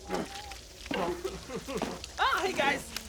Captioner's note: cries